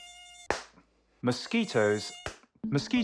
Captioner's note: mosquito buzzing, smack